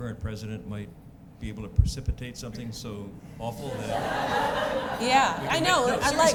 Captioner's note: laughter